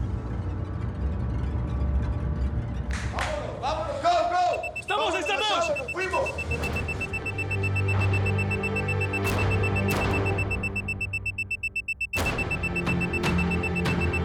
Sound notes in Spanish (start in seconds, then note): 4.5 sonido del contador